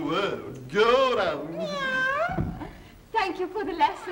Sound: cat meowing

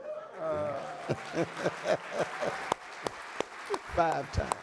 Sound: audience applauding

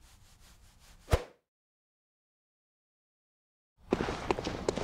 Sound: silence

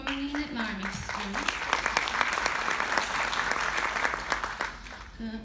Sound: applause

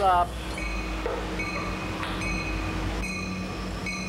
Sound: train beeping

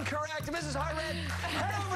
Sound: laughter

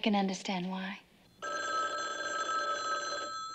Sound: telephone rings

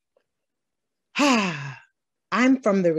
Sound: sighs

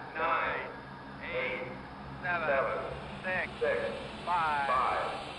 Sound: rocket Countdown and Launch

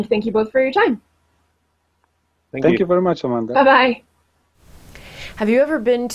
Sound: various thank-yous and byes

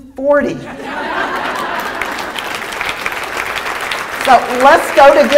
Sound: applause

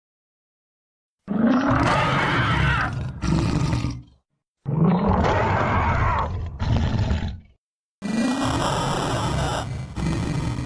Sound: sound of monster

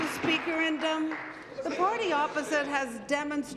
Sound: applause

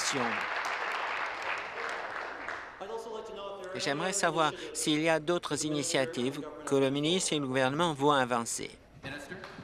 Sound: applause

